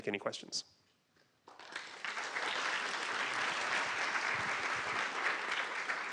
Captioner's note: applause